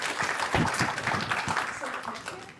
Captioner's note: applause